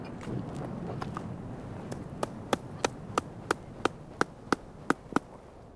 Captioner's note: hammer blows